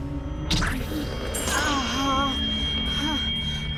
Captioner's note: Alison groaning